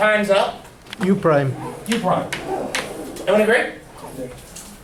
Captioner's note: voiceover